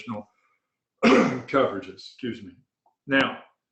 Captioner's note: coughs